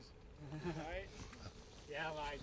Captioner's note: laughing